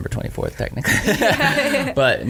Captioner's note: laughter